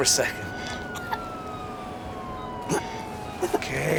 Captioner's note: owen coughs